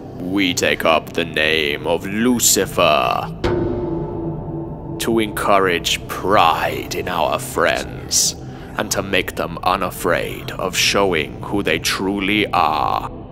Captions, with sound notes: We take up the name of Lucifer - [bell tolls] - to encourage pride in our friends and to make them unafraid of showing who they truly are.